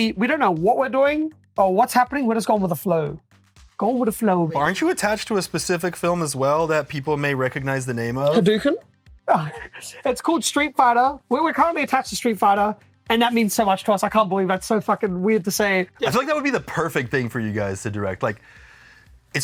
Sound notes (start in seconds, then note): 9.3 laughs